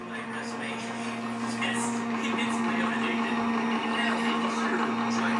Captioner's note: buzzing noise and radio playing